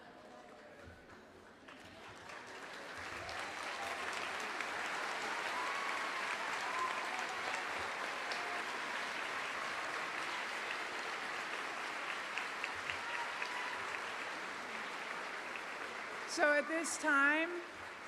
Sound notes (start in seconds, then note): 6.5 applause